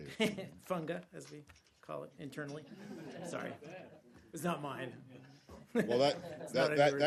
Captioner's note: laughter